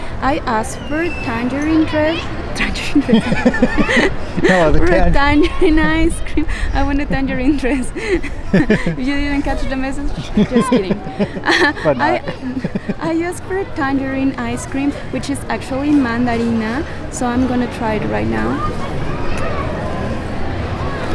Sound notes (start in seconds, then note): 2.8 both laugh; 9.0 laughs; 12.3 laughs